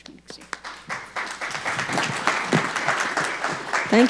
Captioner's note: audience applauding